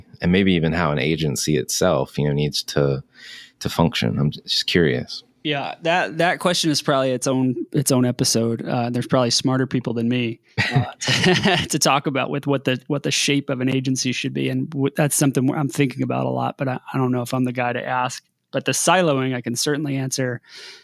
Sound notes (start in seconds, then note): 10.6 laughing